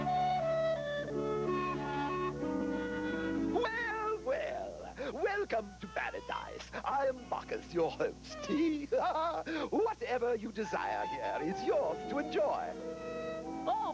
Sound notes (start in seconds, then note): 8.3 laugh